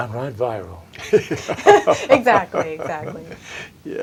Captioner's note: laughter